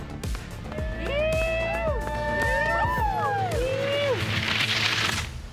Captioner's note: cheering